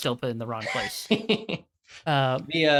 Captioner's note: chuckles